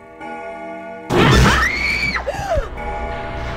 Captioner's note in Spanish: ruge; Gritos, jadeos; Tañido del reloj